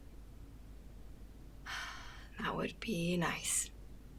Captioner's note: exhales